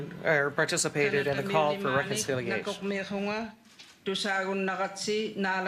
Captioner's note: speaking French